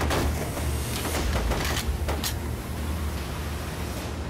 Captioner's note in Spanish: Disparos